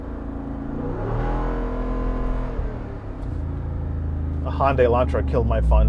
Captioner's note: engine revving